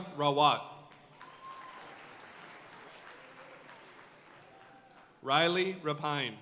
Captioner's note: audience cheering and applauding